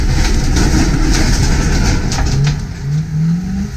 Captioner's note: crashing noise